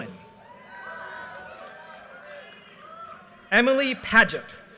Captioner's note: audience cheers and applause